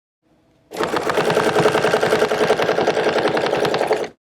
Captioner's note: machine whirring